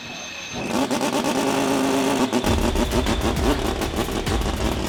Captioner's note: engine roaring